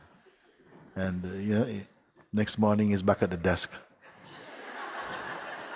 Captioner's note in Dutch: Gelach; Gelach